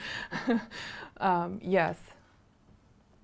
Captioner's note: laughing